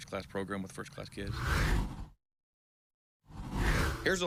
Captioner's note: air whooshes